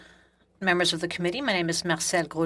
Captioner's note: speaking French